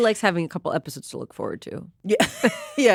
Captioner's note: chuckles